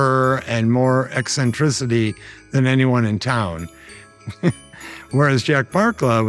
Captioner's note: laughing